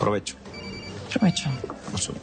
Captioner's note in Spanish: Suena el celular